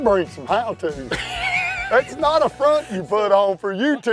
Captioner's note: laughter